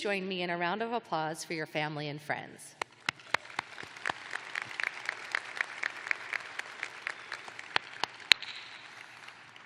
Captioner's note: applause